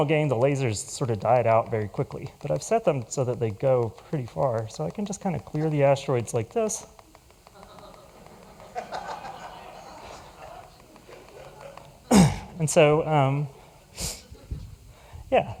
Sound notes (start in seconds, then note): 7.5 laughter